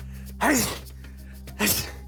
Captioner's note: sneezes